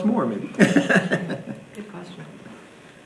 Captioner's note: laughing